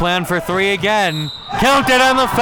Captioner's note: whistle blows